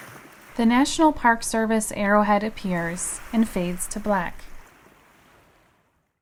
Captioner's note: waves